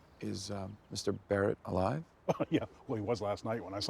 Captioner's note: chuckles